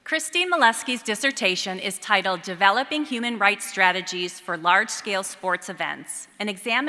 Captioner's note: none